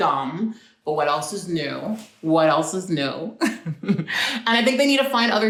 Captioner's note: chuckles